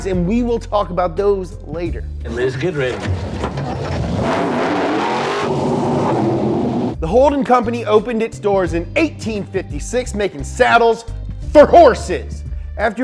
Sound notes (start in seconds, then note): 2.9 gear shift sound; 2.9 engine revving